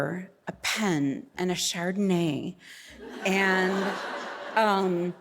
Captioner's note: audience laughing